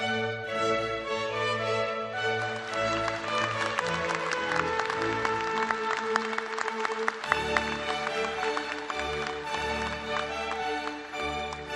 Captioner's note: applause